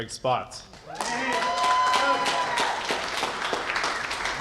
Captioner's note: cheers and applause